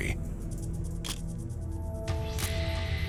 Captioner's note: camera shutter click